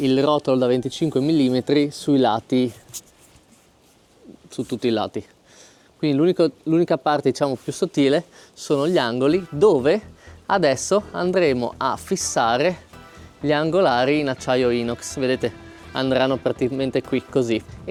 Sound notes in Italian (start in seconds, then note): 6.3 sbuffare